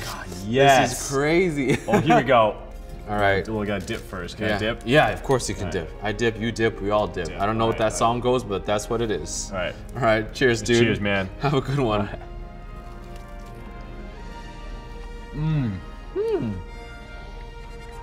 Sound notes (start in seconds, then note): 1.6 laughing